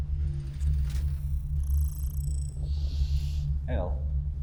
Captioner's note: digital beeping